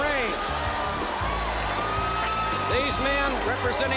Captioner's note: crowd chatter; crowd cheering